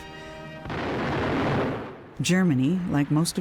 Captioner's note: explosion booming